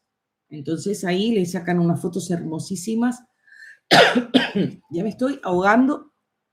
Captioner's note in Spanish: carraspeo